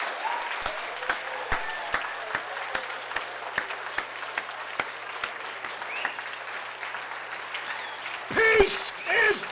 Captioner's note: applause, cheers